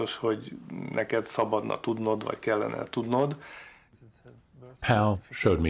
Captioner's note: speaking foreign language